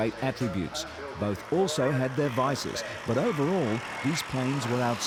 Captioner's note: engine roaring